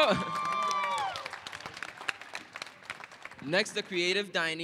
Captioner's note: applause